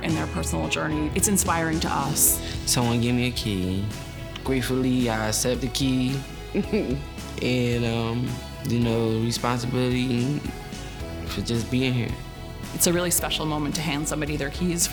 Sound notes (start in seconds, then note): 6.5 laughs